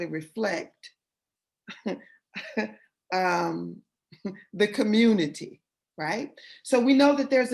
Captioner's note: laughter